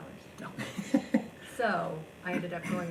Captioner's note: laughing